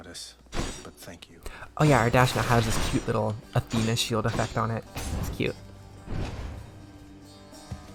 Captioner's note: dash now makes a metallic sound